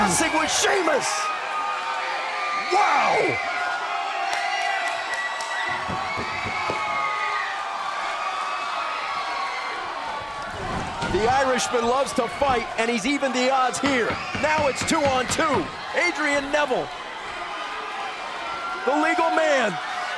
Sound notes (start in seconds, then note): 2.3 crowd cheering